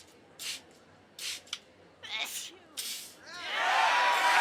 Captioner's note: spraying aerosol, muffled sneeze; crowd cheering, joyously